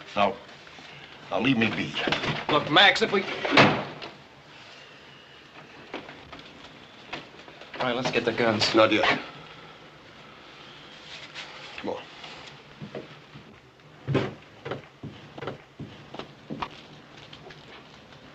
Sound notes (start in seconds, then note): 3.4 slam